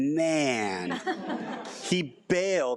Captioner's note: audience laughing